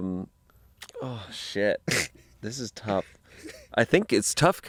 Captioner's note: laughs